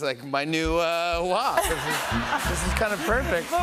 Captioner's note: laughter